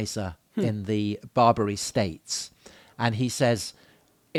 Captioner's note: chuckles